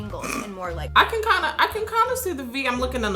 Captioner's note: chuckles